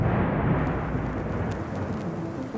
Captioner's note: record popping and crackling